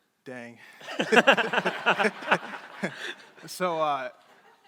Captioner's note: crowd laughing